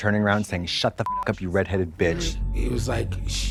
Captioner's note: beep